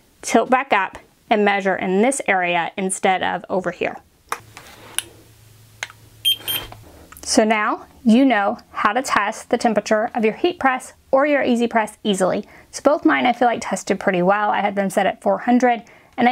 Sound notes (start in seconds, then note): 6.2 thermometer beeping